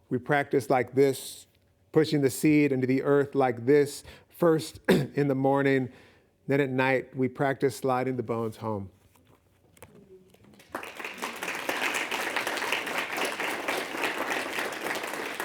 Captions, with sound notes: We practice like this, pushing the seed into the earth like this, first [clear throat] in the morning, then at night, we practice sliding the bones home." [audience clapping]